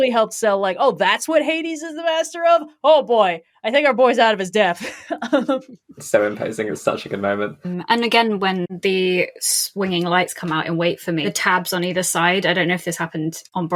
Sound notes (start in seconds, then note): 4.7 laughs